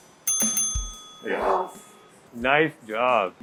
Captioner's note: bell rings